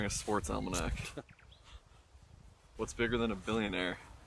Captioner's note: Chuck chuckles